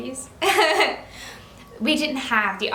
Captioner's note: laughs